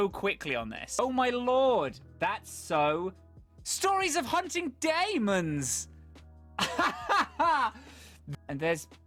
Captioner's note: laughs